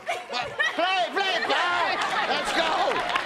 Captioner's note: laughs